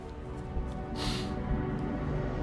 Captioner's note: Elizabeth sniffles